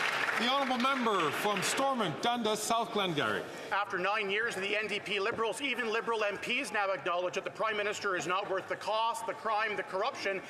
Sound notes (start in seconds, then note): 2.5 some Applause